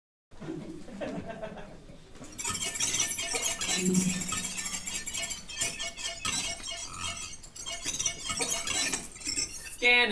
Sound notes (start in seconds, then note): 0.4 laughter; 2.3 robot chirping